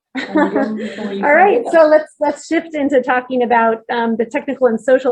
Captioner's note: laughs